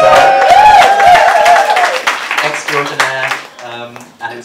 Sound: cheering and applause

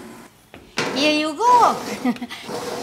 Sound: laughs

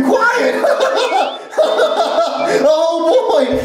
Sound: laughs

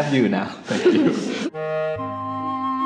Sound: chuckling; classical music

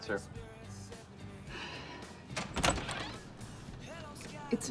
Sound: Sarah sighs

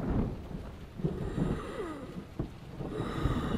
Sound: more heavy breathing

